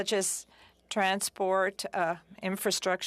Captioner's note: speaking french